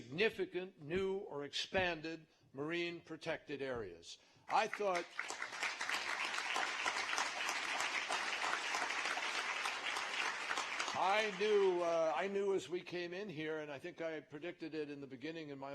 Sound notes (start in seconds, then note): 4.1 applause